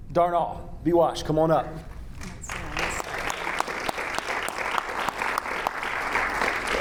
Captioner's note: audience applauding